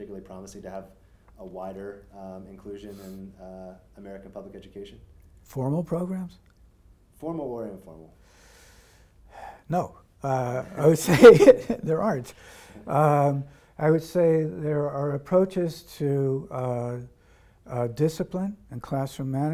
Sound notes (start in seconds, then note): 10.5 laughing